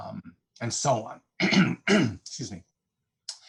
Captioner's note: clears throat